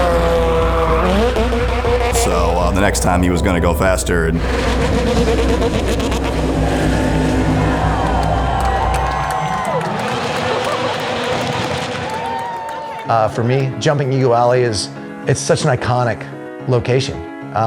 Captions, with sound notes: So the next time he was going to go faster. (car revving) (crowd cheering) - For me jumping Ego Alley is, it's such an iconic location.